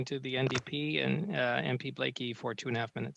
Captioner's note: speaking French